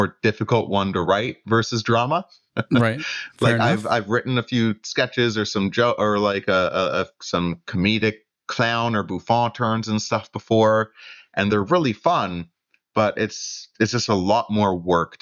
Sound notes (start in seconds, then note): 3.6 laughter